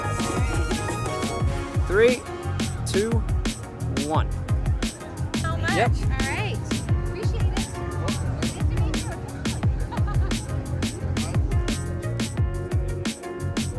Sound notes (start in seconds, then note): 7.6 laughs; 10.4 upbeat funk music